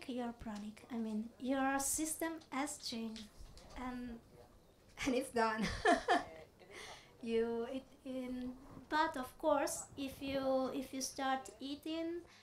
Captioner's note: laughs